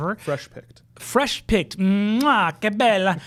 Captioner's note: speaks Italian